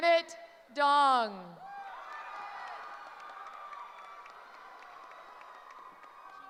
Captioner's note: cheering